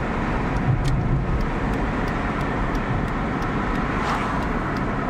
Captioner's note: turn signal clicking